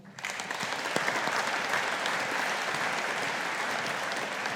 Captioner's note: audience applauding